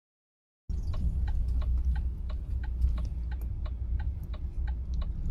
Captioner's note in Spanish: clock ticking